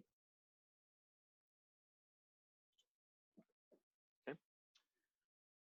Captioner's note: silence